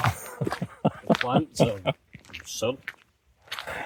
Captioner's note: laughter